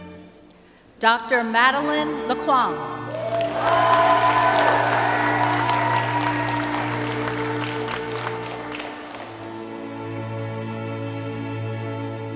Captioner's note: cheering and applause